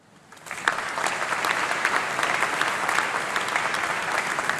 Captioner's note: applause